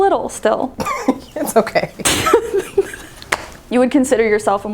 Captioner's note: laughs